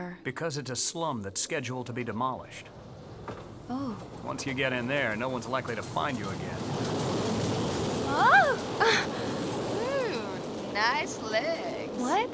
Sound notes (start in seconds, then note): 8.8 gasps